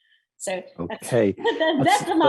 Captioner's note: laugh